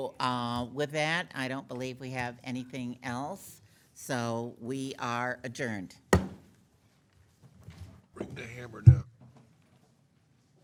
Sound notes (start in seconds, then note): 6.1 gavel knocking